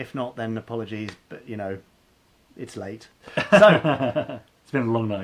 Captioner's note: laughing